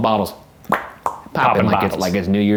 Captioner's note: popping